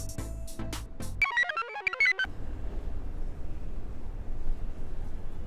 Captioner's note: computer chirps